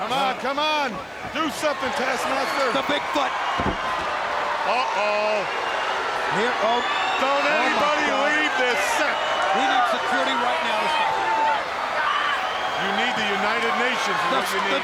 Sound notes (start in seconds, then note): 3.6 body slamming; 3.7 crowd screaming; 11.0 crowd screaming continues